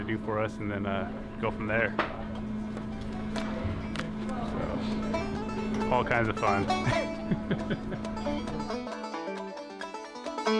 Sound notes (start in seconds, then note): 6.2 chuckles